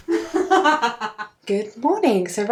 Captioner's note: laughs